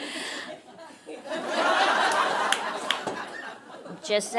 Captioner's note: audience laughing